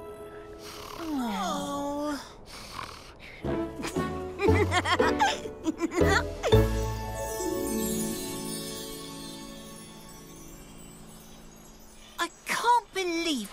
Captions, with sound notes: [giggles] I can't believe we went through all that for nothing.